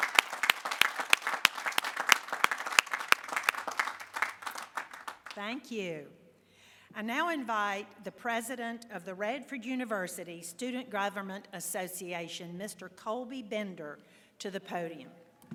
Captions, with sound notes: [ APPLAUSE ] THANK YOU. I NOW INVITE THE PRESIDENT OF THE RADFORD UNIVERSITY STUDENT GOVERNMENT ASSOCIATION. MR. COLBY BENDER TO THE